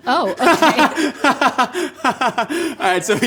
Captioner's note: laughing